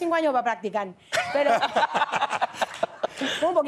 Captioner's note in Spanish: Risas